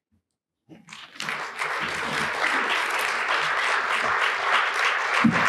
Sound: applause

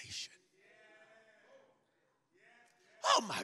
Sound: congregation muttering in agreement

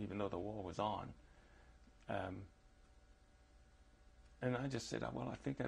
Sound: pauses for 3 seconds

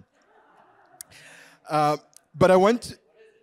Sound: audience laughing

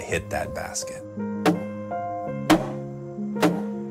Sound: hammer thumping

